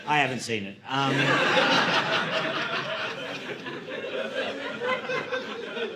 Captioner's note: audience laughing